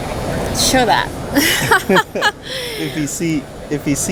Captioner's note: chuckles